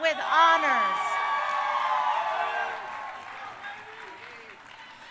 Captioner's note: crowd cheering